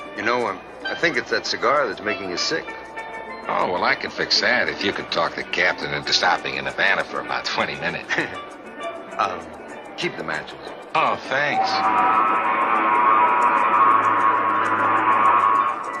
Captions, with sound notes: - You know, I think it's that cigar that's making you sick. - Oh, well I could fix that if you could talk the captain into stopping in Havana for about 20 minutes. (Doctor Burke laughs) - Keep the matches. - Oh thanks. (boat whistling)